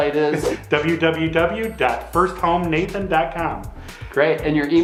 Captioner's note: chuckles